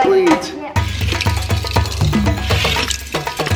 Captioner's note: car clattering; upbeat tribal music